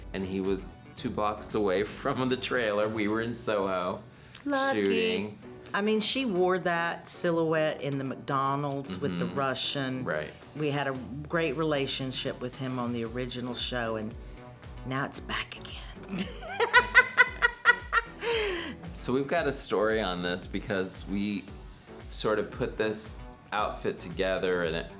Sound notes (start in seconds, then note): 16.2 laughing